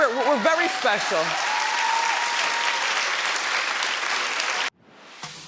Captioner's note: audience applauds